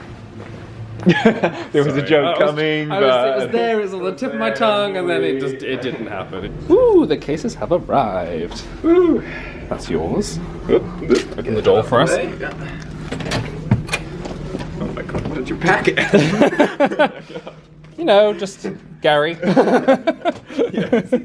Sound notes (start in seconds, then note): 1.0 laughs; 15.7 they laugh; 19.4 laughs